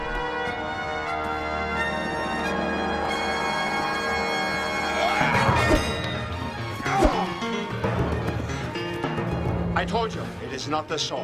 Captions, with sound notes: (grunts) (metallic clang) (woosh) - I told you, it's not the sword.